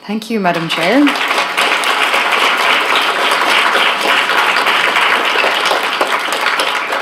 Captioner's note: applause